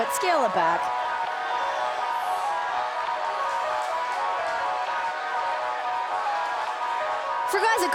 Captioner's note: crowd cheering